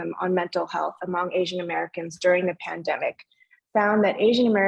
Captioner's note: speaking in foreign language